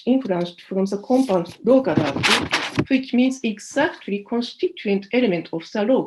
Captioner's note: non-english